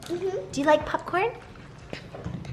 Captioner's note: girls crunching on popcorn